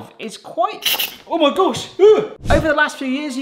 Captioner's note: steam hissing